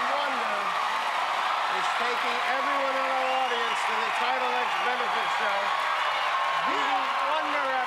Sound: cheers and applause

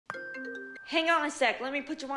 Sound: phone ringing

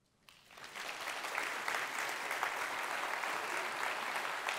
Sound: audience applauding

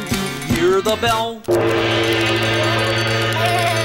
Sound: gong

